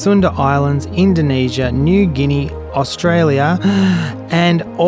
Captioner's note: inhales deeply